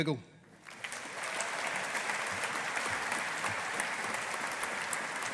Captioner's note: audience applauding